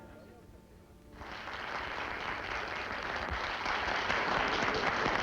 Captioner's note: applause